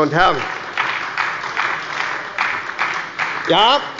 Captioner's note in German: Beifall bei der SPD